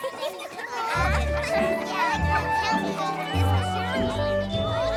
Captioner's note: bell ringing